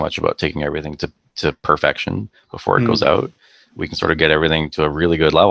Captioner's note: none